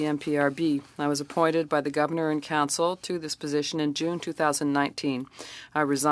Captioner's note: speaking French